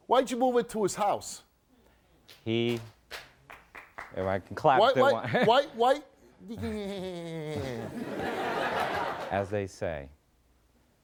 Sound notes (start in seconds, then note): 2.2 audience clapping; 6.4 mimicking laughter; 7.6 audience laughing